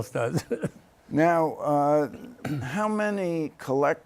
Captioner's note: laughter